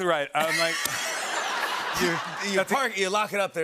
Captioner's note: laughter